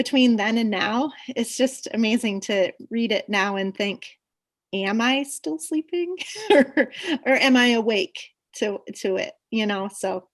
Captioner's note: laughs